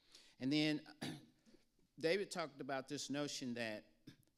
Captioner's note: clears throat